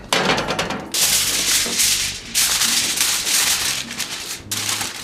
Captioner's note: foil rustling